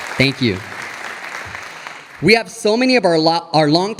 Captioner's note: audience applauding